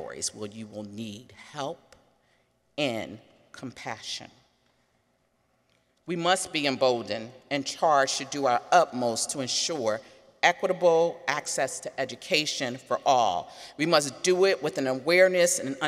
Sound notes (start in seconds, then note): none